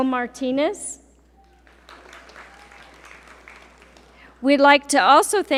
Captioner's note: audience applaud